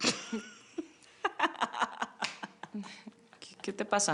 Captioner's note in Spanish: Risas